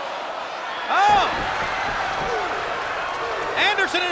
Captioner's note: blows thudding